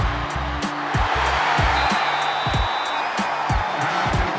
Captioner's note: cheering, whistles